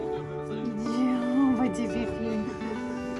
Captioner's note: more background talk and laughter